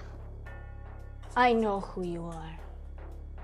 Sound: Russian accent

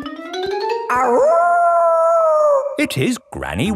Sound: kids yelling; howling

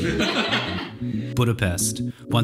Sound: laugh

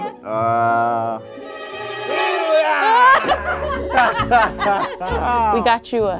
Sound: groaning; laughing

